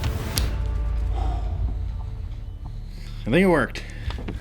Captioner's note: exhales